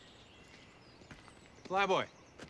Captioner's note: bird chirp; footstep